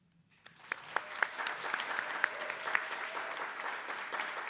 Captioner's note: attendees applauding